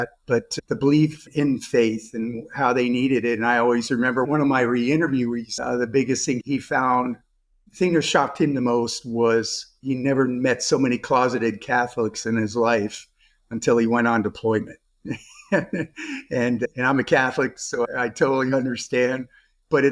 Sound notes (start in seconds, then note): 15.0 chuckles